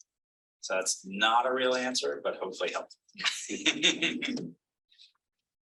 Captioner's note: laughs